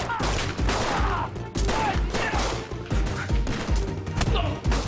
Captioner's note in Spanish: Grita